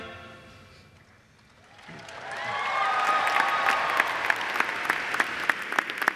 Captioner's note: cheers and applause